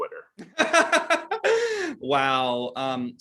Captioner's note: laughter